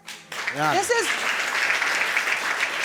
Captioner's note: crowd applaudes